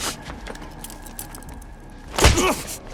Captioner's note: ratchet handcuffs; grunting